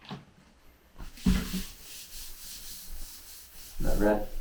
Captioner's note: cloth rustling